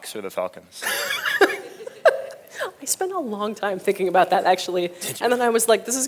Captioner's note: laughs